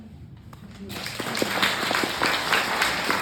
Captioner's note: applause